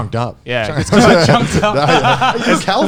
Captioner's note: laughing